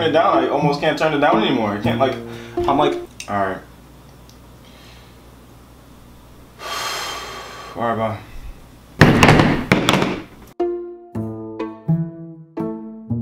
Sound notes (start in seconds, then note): 6.6 siiiiiigh; 9.0 slammm